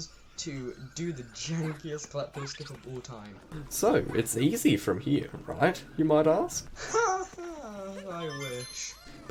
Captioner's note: sad laugh